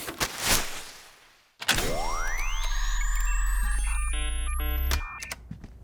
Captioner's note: machine whirs